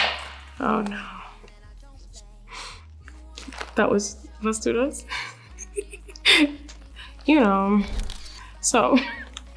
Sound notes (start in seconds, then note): 5.2 laughs